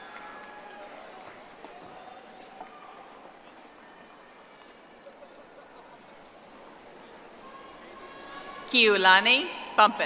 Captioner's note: audience applauding